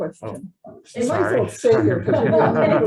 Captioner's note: laughs